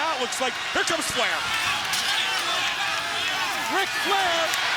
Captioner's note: crowd cheering